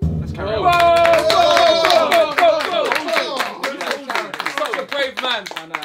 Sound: drum beats; all cheering and clapping

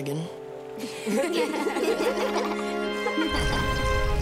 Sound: laughing

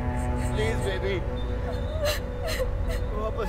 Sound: Googly sobbing

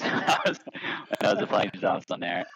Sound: laughs

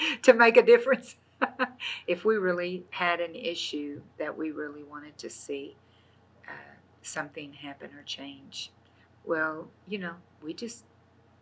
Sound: laughs

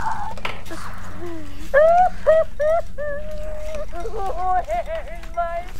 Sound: caller sobbing; man slurping

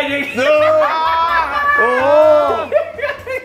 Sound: laugh

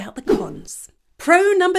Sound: image whooshes

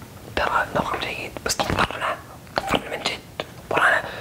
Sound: whispers

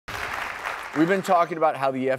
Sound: audience applause

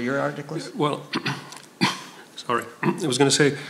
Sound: clears throat

